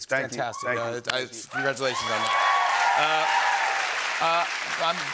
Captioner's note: cheers and applause